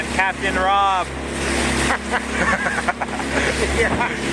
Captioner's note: laughing